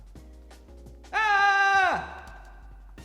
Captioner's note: shouts